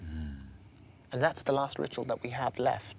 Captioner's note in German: Er spricht auf Englisch fertig